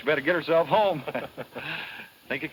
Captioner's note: laughs